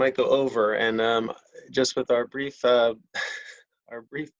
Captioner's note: chuckles